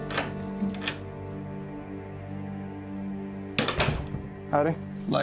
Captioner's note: door opens, closes